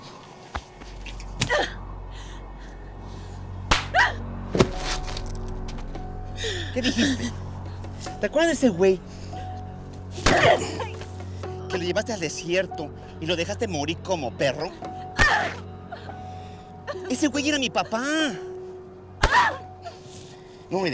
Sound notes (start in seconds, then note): 3.7 shouts; 6.8 speaking spanish; 10.2 grunts; 11.9 speaking spanish; 15.2 grunts; 17.2 speaking spanish; 19.2 grunts; 20.7 speaking spanish